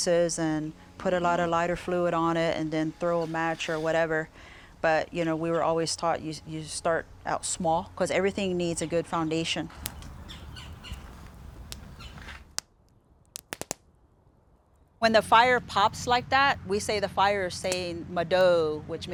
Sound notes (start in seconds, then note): 9.7 flames crackling, animals chittering; 13.2 popping